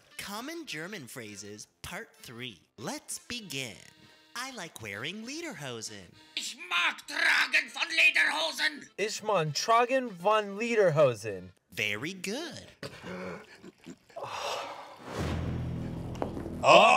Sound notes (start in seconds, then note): 6.4 instructor speaks in German; 9.0 speaks in German; 14.1 sighs; 15.2 ominous music